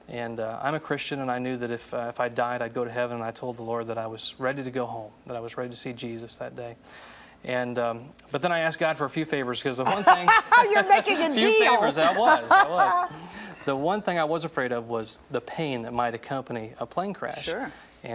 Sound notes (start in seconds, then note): 9.8 laughs; 12.9 audience laughs